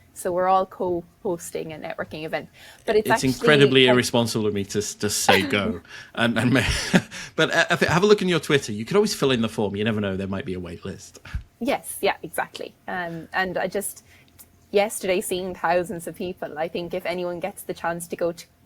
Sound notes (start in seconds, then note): 5.2 laughing; 5.3 chuckles